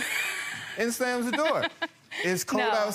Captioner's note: laughs